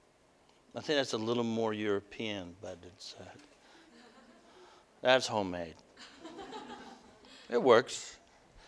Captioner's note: audience: Laughter